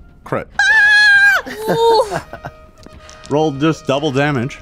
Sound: excited screaming

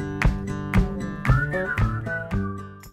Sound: singer whistling

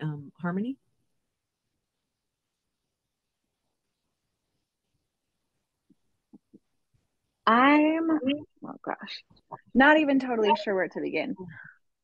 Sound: pause

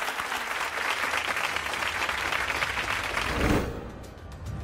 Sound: audience applause

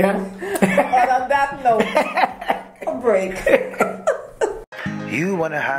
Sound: laugh

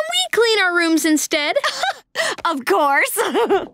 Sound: chuckles

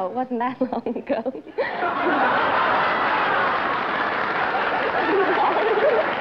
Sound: laughter

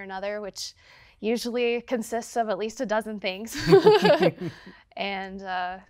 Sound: laughs

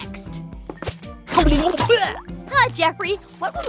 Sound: grunts

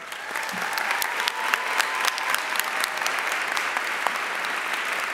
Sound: audience applauding

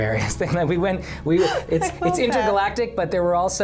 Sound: laughs

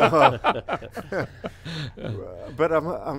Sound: all laughing

